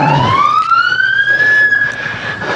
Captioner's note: sirirenens wawaililing